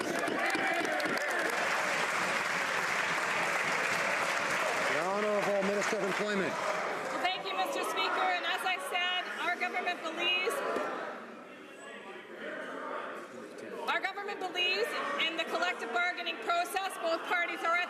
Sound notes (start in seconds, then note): 5.4 some Applause